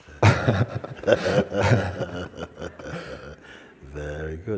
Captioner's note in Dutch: gelach